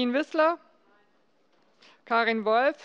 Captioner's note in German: none